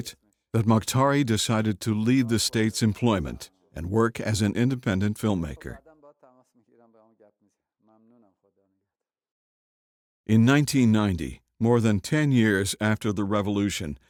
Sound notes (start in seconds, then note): 6.2 speaking foreign language